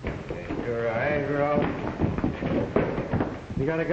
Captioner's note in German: Morgan summt